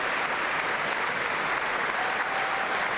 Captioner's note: applause